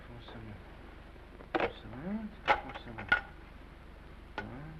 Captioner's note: phone clatters